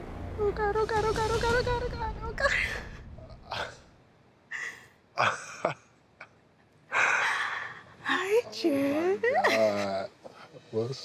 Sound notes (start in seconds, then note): 2.7 laughs; 2.7 sighs in relief